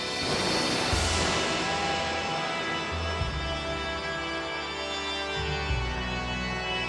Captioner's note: ominous music; lightning crashing